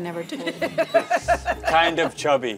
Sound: all laugh

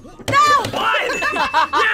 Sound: buzzer rings; bell rings; both laugh

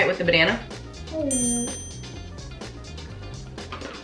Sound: ding

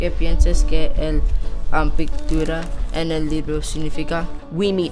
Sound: speaking Spanish

